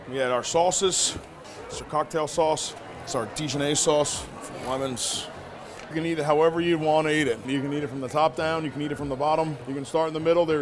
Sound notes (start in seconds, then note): none